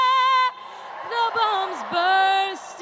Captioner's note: cheers